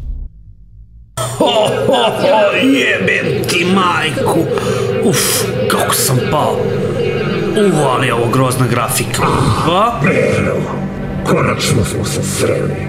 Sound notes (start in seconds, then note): 1.2 sobbing; 3.1 female robot voice in the background